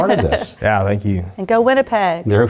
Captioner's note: laugh